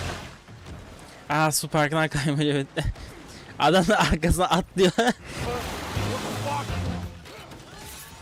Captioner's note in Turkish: kahkaha